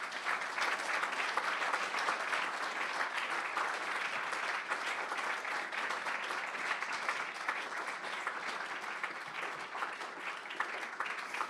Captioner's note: audience applauds